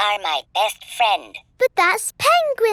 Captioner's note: none